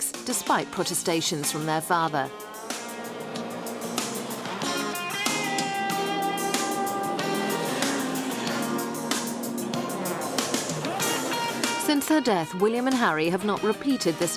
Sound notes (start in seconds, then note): 2.7 engines rumbling; 2.7 lively music